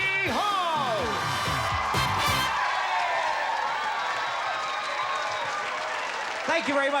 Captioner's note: cheers